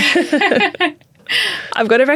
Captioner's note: both laughing